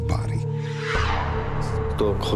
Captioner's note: whoosh, boom; speaking korean